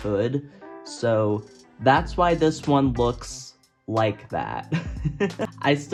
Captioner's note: laughs